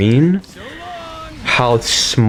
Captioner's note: inhales Oxygen